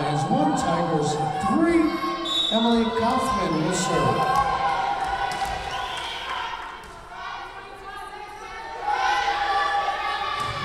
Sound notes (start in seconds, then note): 2.2 whistle blowing